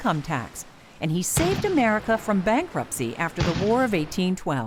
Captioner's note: sound of battle